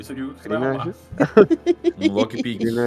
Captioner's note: laughter